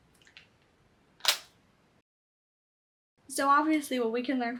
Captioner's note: Apple pencil clicks